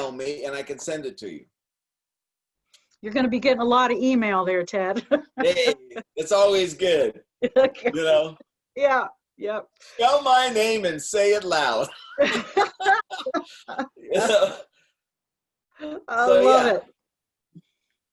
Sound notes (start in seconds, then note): 5.0 laughing; 11.9 laughing